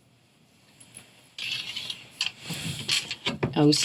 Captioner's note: light thudding sound